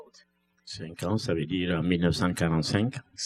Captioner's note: speaking french